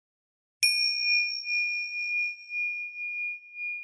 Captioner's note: bell rings